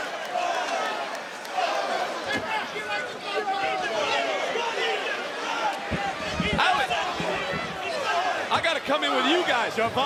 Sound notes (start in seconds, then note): 1.9 people yelling